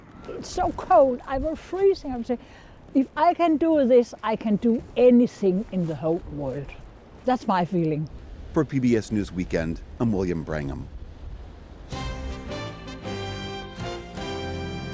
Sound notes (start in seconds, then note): 9.3 voice-over